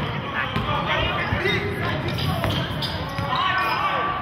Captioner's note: yelling